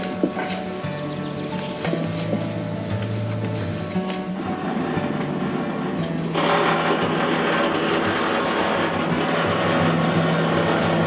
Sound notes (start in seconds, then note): 4.7 engine grinding; 4.7 gentle music